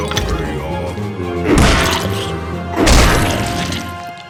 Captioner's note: N00bly grunting